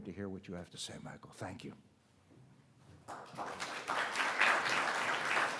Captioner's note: audience applauding